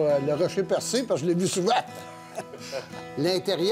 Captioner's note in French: rires